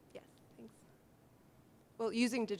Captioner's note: voiceover